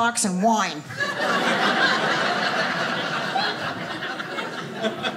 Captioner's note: audience laughing